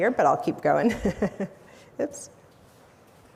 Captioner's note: chuckles